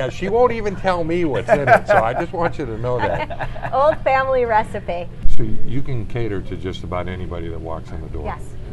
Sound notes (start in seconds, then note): 2.9 laughter